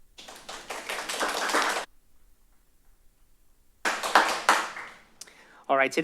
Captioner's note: applause